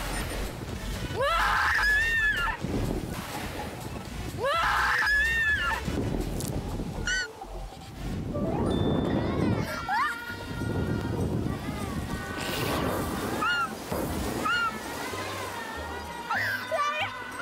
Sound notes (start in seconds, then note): 8.4 laughing; 12.5 burst out in laughter